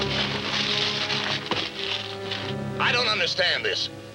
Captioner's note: suspenseful music; paper crunching